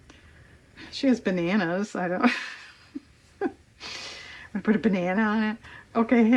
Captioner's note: laughs